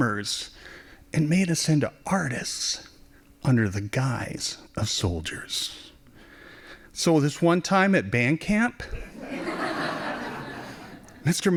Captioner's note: laughing